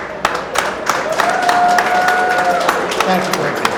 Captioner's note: audience applauds